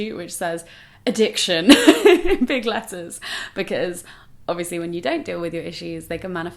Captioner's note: laughs